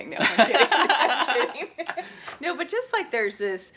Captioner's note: laughing